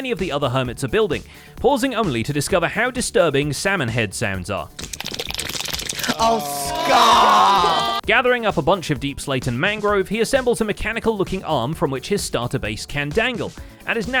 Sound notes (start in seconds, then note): 4.8 vigorous slapping